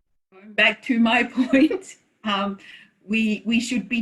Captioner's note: laughs